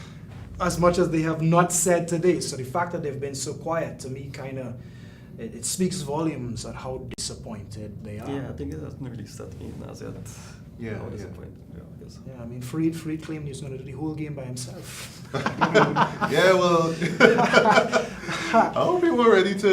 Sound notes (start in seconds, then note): 15.2 all laughing